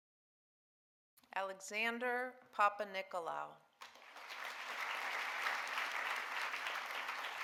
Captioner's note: audience applauding